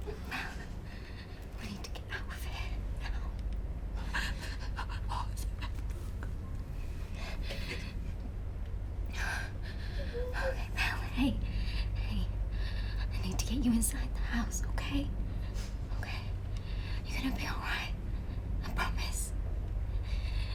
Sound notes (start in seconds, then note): 9.4 Lucy panting; 9.8 Belle whimpering